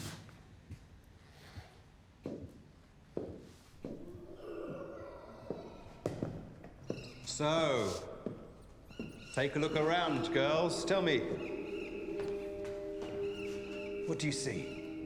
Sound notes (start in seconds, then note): 4.1 dinosaurs growling